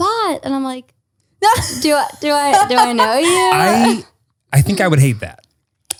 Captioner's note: laughs